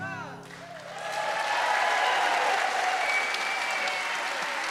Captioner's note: audience applauds and cheers